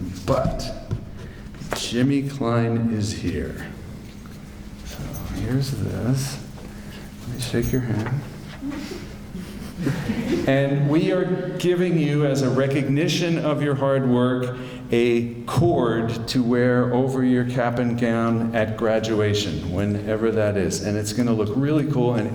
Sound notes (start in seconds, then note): 8.5 giggles